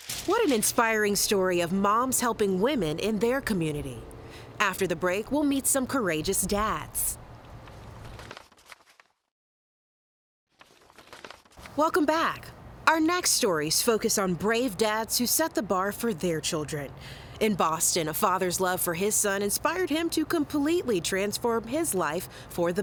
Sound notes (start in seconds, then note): 0.0 paper fluttering; 7.4 notes shuffling